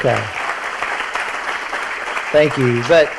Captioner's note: audience applauds